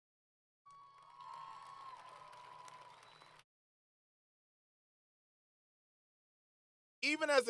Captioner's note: applause